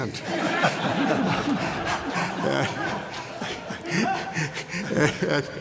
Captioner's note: laughter